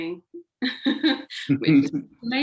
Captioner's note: laughing